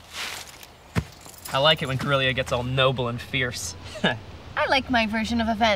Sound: chuckles

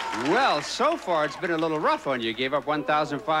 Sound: audience applauding

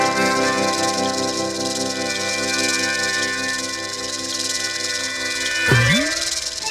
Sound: rattling; crying, rattling

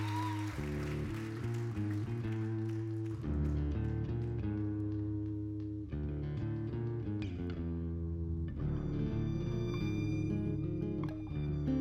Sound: cheers and applause

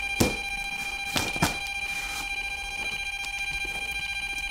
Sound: box whirring

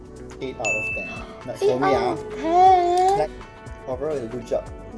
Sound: gasps

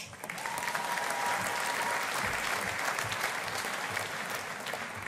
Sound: audience applauding

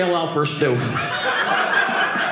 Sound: audience laughing

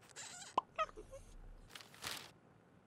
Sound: Zwei whimpers

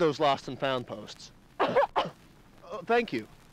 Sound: coughs

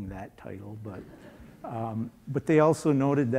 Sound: audience laughs

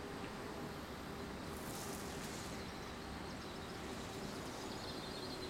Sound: leaves rustling

